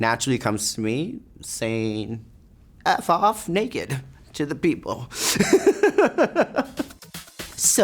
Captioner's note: laughs; light music